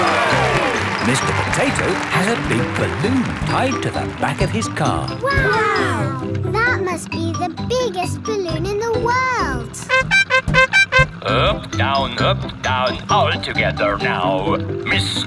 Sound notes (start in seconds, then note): 0.0 cheering; 9.8 horn beeping